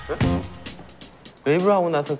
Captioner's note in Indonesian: Mengentakkan kaki di tempat